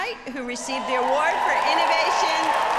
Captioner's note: audience cheering